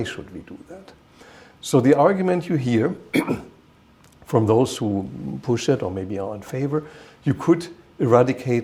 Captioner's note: clears throat